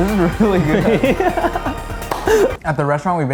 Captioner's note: laughing